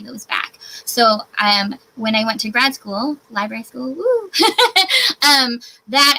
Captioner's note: laughs